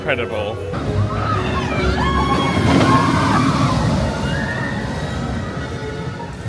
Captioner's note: people scream on rollercoaster